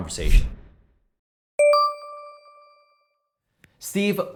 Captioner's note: beeping